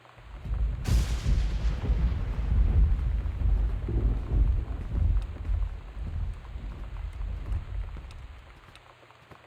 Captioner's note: thunder